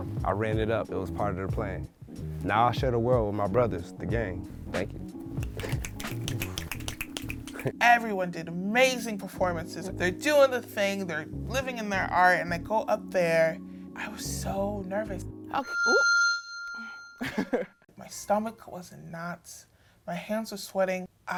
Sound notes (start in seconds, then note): 5.3 audience snaps; 15.6 microphone feedback